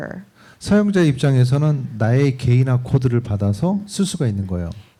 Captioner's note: speaking korean